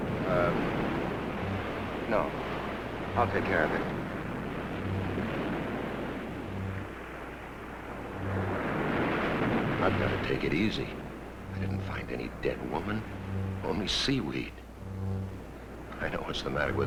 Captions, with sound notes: - Um... No. I'll take care of it. (tense music) (waves crashing) I've got to take it easy. I didn't find any dead woman, only seaweed. I know what's the matter with me.